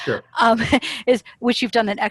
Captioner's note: laughter